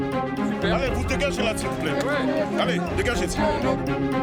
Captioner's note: French spoken audio